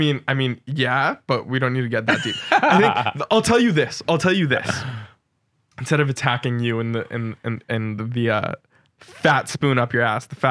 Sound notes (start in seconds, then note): 2.0 laughs